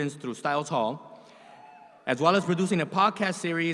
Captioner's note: audience cheers